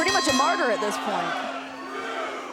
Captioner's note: bell ringing